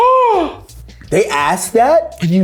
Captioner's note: gasping